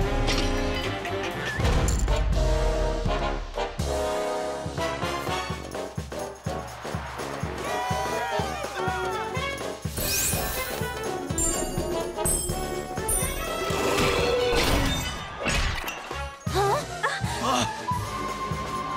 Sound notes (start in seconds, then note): 1.6 coins clattering; 5.2 audience cheering; 17.0 exasperated gasps